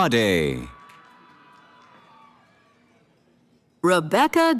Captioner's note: cheering